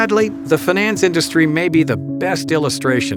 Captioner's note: voiceover